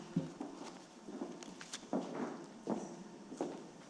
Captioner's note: heels clicking